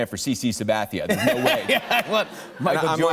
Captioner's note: laughter